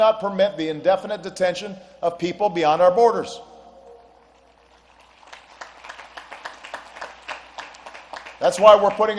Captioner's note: applause